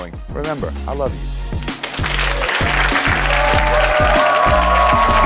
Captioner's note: audience applauds